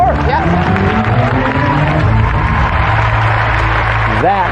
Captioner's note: cheering and applause